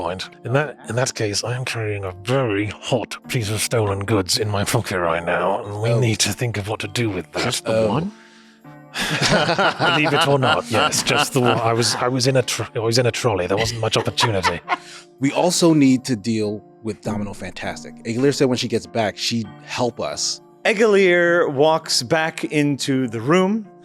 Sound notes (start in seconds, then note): 8.9 laughter; 13.6 laughter